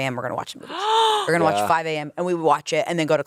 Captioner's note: gasps